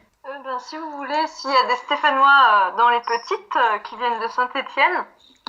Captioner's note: laughs